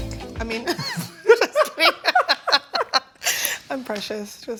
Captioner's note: all chuckles